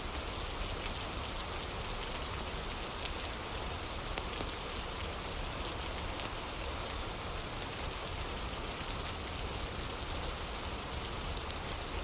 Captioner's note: fire crackling